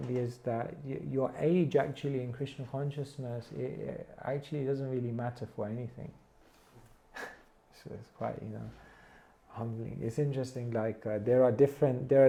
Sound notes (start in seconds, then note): 7.1 chuckles